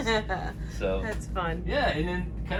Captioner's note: laughing